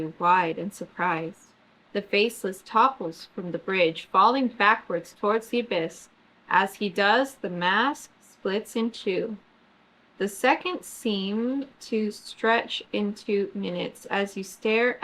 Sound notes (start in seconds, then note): none